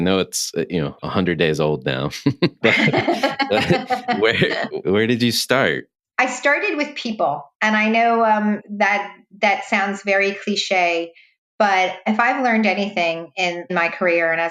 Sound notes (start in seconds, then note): 2.0 laughs; 2.4 laughing